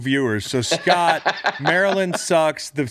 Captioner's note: laughing